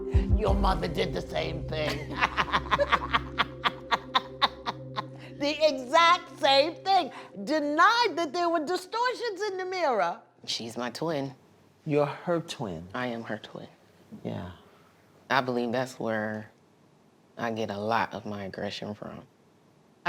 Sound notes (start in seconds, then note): 1.8 laughter